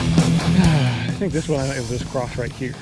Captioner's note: sighs